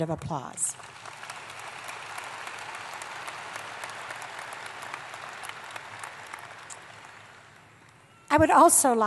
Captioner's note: applause